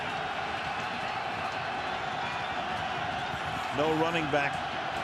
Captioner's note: crowd cheering